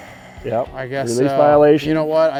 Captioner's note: sigh